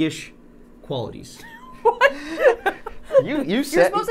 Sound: Safiya laughing

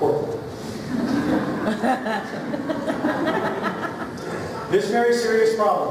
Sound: laughter

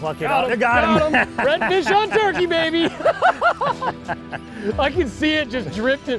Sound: laughing

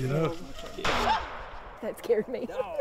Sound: gun firing

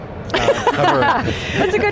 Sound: laugh

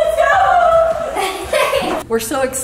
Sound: kids laughing

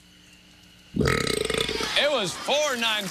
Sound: burps

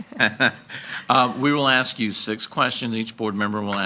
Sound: laughs

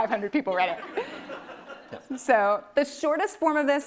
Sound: audience laughing

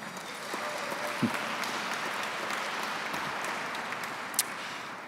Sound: audience clapping

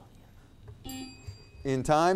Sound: bell ringing

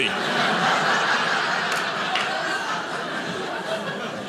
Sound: audience laughing

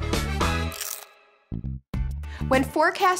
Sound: crunch sound

